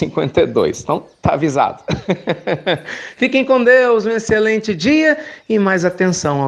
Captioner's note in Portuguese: Risos